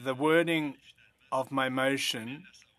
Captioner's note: speaking French